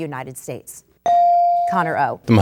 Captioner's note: bell dings